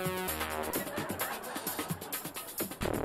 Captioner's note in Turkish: Gülme efekti